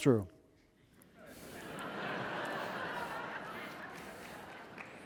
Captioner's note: audience laughing